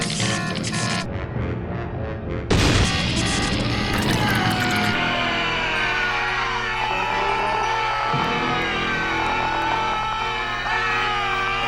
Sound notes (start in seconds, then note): 0.2 electricity sparking; 4.4 Joe screaming